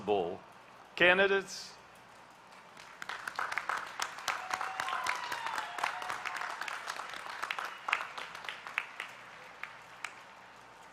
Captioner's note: applause